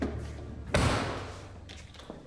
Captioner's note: closes trunk